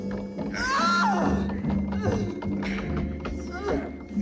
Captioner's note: screaming